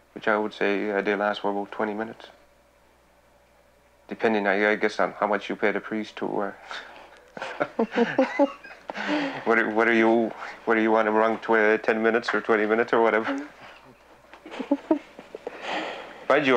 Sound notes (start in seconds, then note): 7.3 both laughing; 14.4 laughs